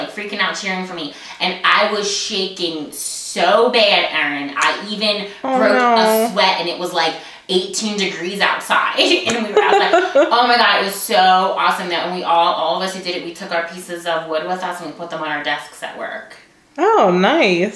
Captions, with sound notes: was freaking out cheering for me and I was shaking so bad Erin. I even broke a sweat and it was like eighteen degrees outside (laughter) Oh my God! It was so awesome. And all of us who did it we took our pieces of wood with us and we put them on our desks at work.